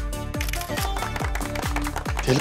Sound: audience clapping

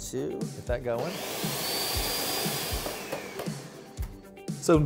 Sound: blender whirring

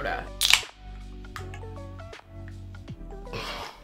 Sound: soda can clicking open; soft instrumental music

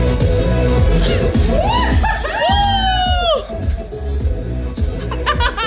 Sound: exclaiming; laughing

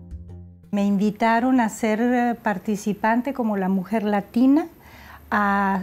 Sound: Spanish

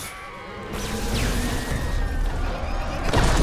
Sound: screaming

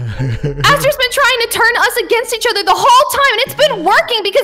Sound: giggles

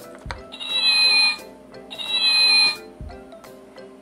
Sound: cat Sound

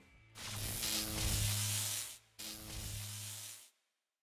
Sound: electric buzzing

